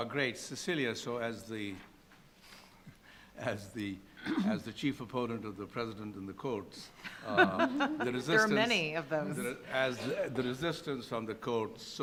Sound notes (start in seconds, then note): 7.0 panelists laughing